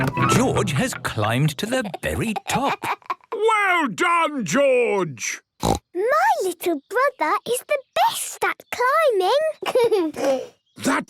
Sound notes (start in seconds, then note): 6.1 laughter